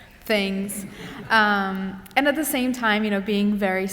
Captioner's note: laughter